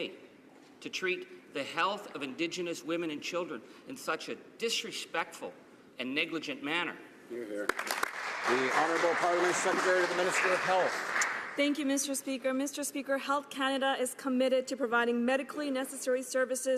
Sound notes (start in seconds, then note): 10.9 some Applause